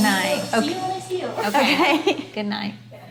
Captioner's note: laughing